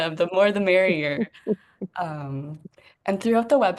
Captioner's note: laughs